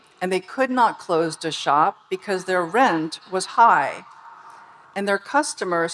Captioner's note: none